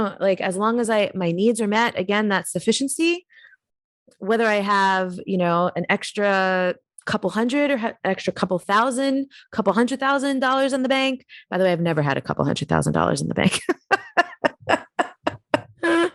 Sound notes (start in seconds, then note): 13.6 giggles